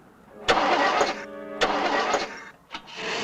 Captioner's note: starting engine